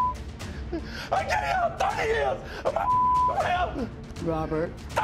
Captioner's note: beep; beep